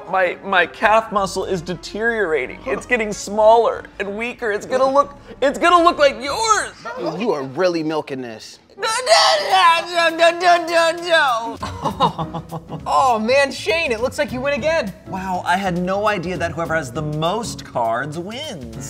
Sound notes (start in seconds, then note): 8.8 crying; 11.4 laughing